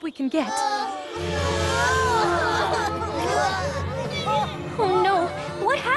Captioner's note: all groaning